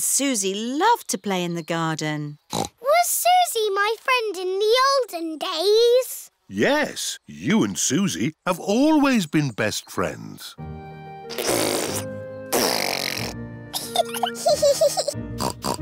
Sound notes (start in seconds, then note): 2.5 snorts; 11.6 sputtering; 13.7 both giggling